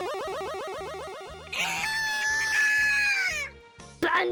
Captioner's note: Bunbie??? Scream